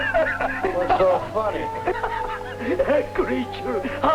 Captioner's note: laughter